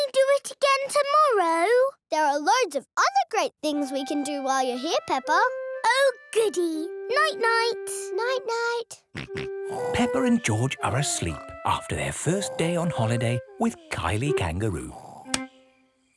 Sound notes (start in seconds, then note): 9.7 snores; 9.7 snorts